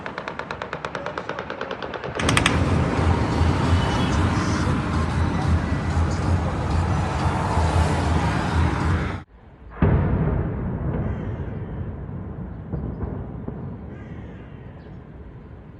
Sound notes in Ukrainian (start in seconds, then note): 0.0 автоматні черги; 4.0 серія вибухів